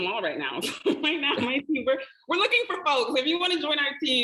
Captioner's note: laughing